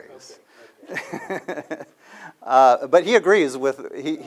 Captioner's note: laughter